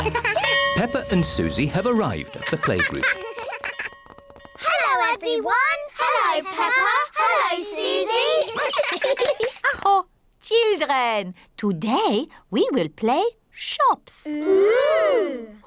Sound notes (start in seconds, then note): 8.3 all laugh; 9.0 claps hands; 9.5 exclaims